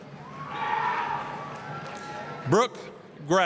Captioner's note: applause, cheering